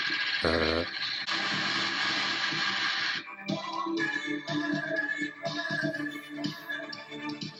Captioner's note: not so awesome static noise